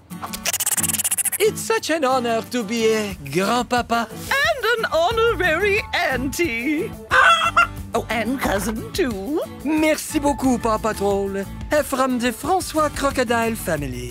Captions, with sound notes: It's such an honor to be a grandpapa. And an honorary auntie. [clucking] Oh, and cousin, too. Merci beaucoup PAW Patrol from the Francois Crocodile Family.